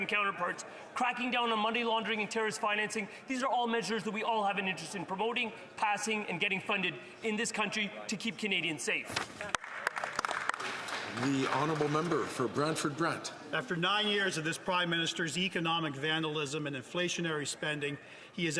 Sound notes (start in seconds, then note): 13.2 some Applause